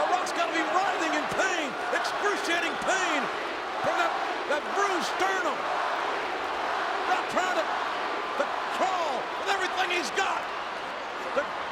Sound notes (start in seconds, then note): 5.7 spectators chanting